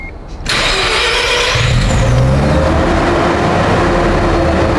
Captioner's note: car engine revving